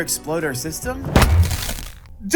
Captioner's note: dunk kick